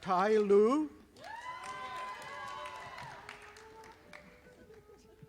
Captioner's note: audience applauding